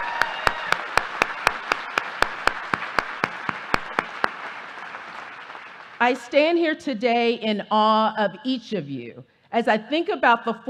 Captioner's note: applause